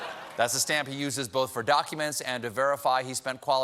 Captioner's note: laughter